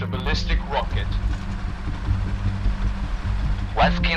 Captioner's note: motor